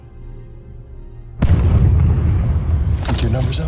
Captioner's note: explosion booms